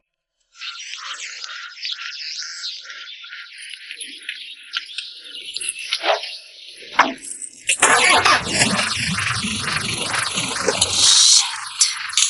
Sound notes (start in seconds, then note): 7.8 car engine revving